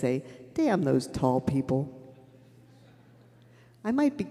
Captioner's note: laughter